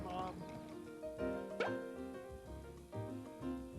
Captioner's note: popping sound